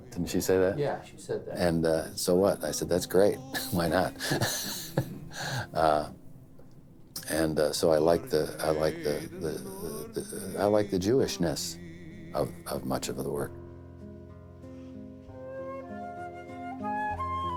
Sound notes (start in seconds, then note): 3.5 laughs